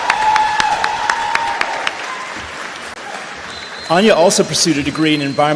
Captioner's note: cheers did and applause